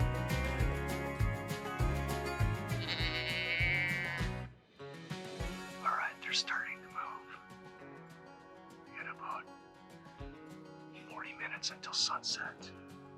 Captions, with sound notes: (animal sound) Alright, they're starting to move. We got about 40 minutes until sunset.